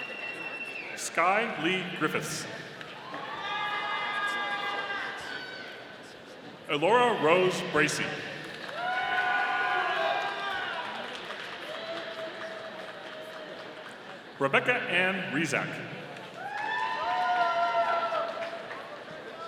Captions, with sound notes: Sky Li Griffiths. (audience cheering) Elora Rose Bracy. (audience applauding) Rebecca Anne Rezak. (audience cheering)